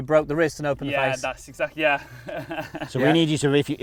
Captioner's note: laughs